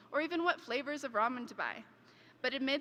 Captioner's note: none